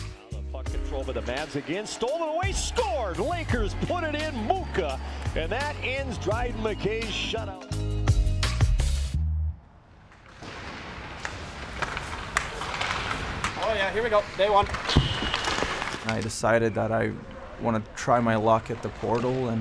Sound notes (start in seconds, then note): 0.0 upbeat music; 8.2 upbeat music; 10.7 equipment clinks